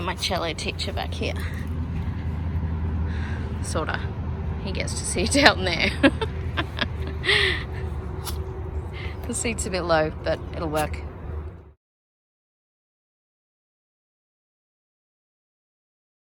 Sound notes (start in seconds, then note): 6.3 Ollie snuffs; 6.4 cackles